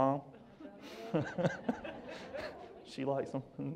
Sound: laughs

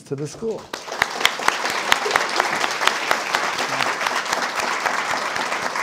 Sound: audience applauding

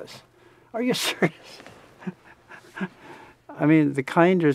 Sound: laughs

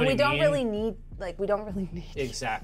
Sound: chuckles

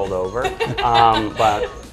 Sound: laughs

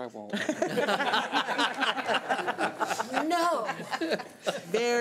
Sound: laughing

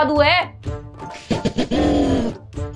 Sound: laughing

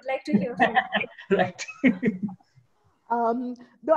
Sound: laughing

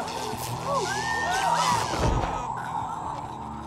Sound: jewel zaps

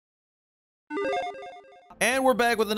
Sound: logo beeps

